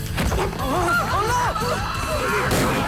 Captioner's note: people screaming; overlapping chattering; gun fires